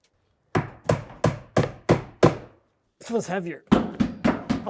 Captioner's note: hammer knocking